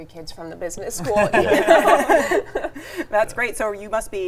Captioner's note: both laughing